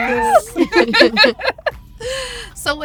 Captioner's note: all laughing